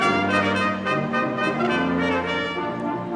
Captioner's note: none